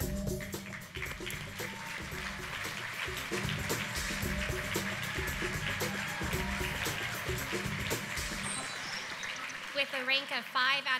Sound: applause, music

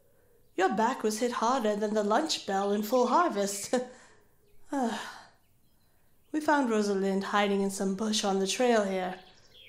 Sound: sigh

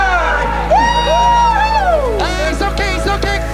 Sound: team cheering

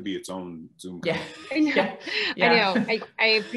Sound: laughing

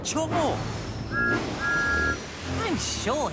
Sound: thomas whistles

